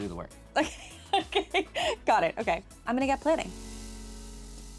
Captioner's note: laughs